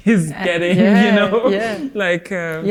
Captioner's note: both laughing